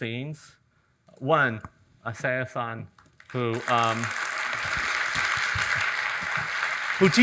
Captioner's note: audience applauding